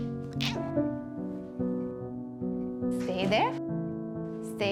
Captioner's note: Holden meows